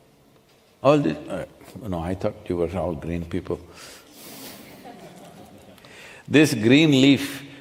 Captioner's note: few laugh